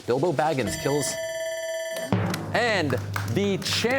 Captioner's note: bell ringing